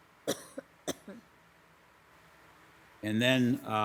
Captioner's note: woman coughing